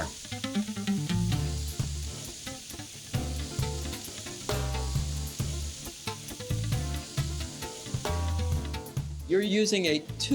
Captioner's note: sizzling